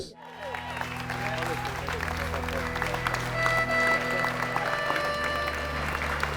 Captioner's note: crowd applauds; serene orchestra music